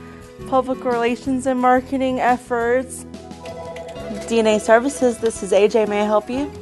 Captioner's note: phone rings